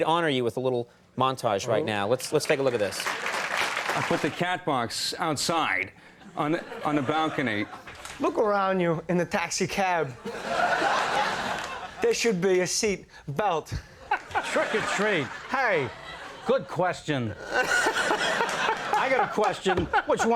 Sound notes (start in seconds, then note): 2.2 audience clapping; 10.2 audience laughing